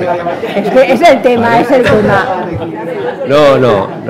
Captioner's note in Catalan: riures